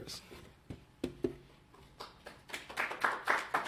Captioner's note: applause